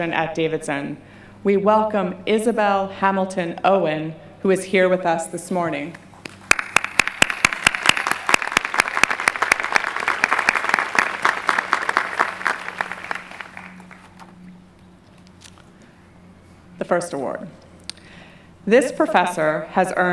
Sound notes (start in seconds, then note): 11.1 clapping